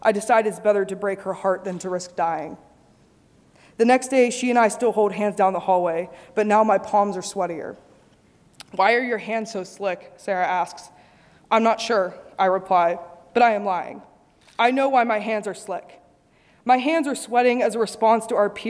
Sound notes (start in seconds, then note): none